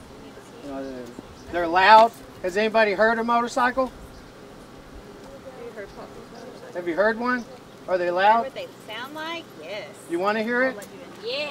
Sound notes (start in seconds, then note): 4.3 audience talking